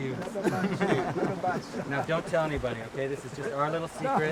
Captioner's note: laughter